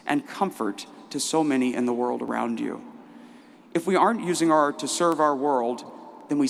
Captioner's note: none